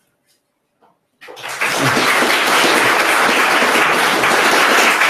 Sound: applause

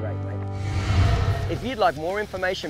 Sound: whoosh

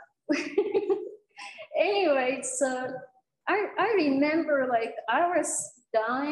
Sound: giggle

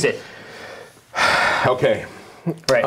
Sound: sighing

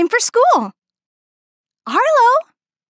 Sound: silence

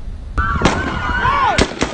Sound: sound of gun shots

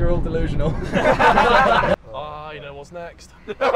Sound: all Laughing

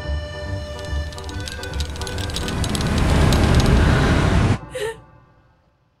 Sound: pizza cutter rattling; Lily chuckles

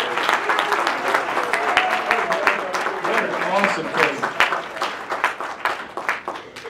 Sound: applause

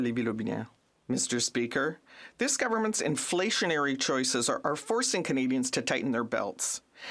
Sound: speaking French

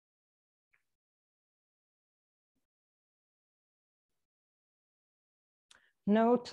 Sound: silence

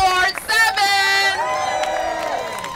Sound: applause

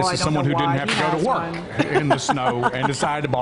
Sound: laughter

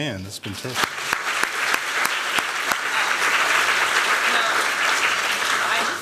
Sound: applause

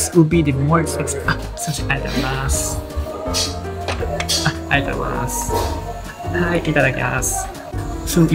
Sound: speaking in japanese

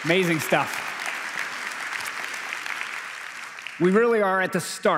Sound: applause

